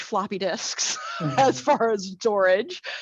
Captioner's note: laughs